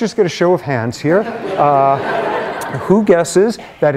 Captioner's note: laughter